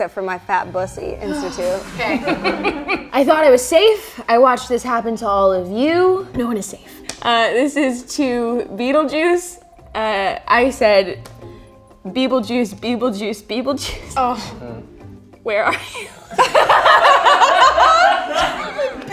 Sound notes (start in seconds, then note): 1.2 sighs; 15.7 giggles; 15.8 laughing; 16.2 all laughing